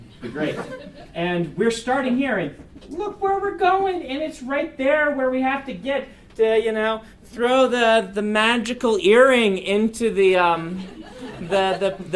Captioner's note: laugher